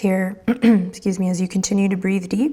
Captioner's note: clears throat